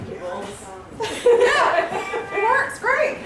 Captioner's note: laughter